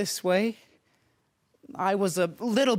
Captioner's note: soft breathing